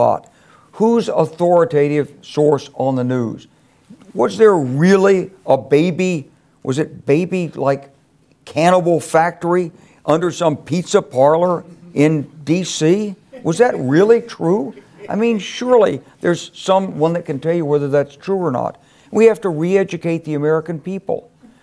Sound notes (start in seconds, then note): 14.4 laugh